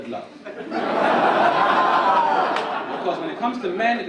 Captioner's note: audience laugh